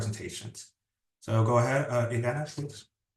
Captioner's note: speaking Spanish